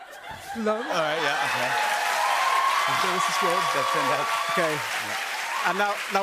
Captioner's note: cheers and applause